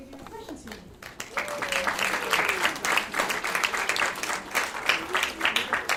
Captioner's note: attendees clapping loudly